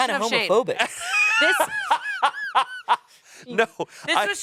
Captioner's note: laughs